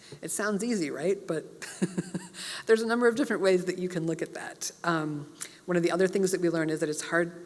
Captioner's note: laugh